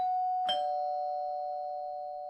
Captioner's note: bell chiming